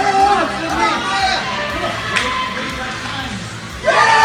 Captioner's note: crowd cheering and shouting; cheering drowns out speaker; crowd